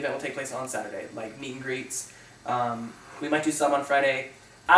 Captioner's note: none